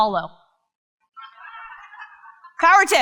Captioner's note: crowd laughs and cheers